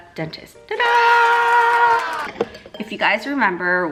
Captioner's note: crowd cheers